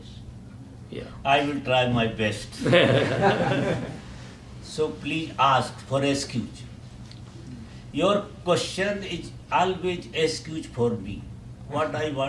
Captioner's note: laughter in Audience